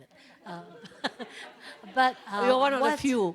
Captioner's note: laughs